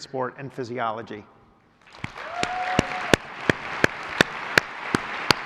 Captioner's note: applause